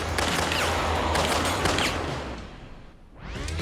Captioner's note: gunfire